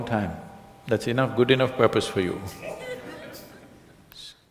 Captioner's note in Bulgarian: смях